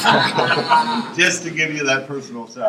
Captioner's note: laughter